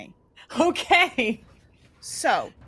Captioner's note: laughs